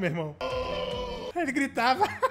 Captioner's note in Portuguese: Fera gritando